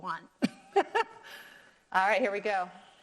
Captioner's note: laughs